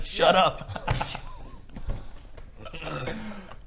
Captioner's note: silent giggles